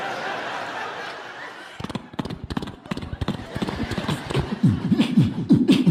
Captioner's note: horse gallop; beatboxing